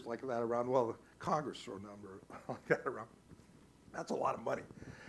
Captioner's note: laughs